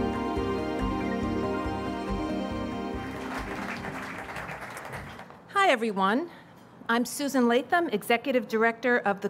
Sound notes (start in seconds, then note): 2.8 audience applauds